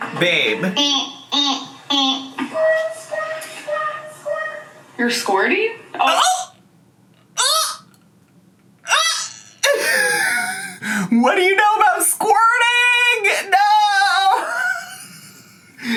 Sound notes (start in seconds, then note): 6.3 gasps; 9.6 laughs; 14.1 laughs